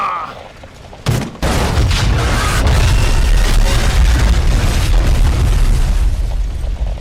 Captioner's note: building collapses